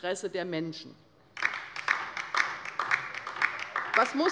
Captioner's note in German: Beifall bei der LINKEN